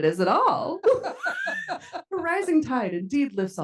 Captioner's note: attendees laughing